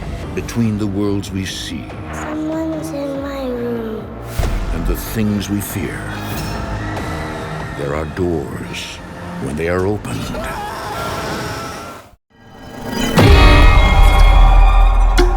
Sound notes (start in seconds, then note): 6.6 screaming; 10.2 screaming